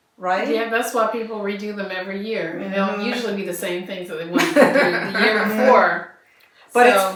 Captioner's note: laughter